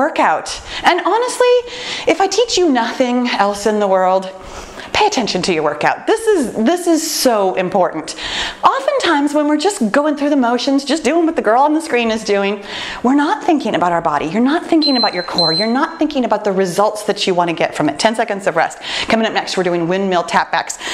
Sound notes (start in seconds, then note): 14.8 timer beeps